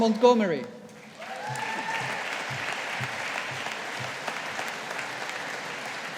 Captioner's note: audience applauding